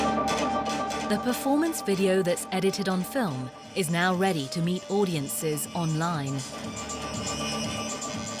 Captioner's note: voiceover